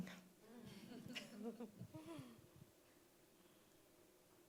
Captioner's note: audience chuckling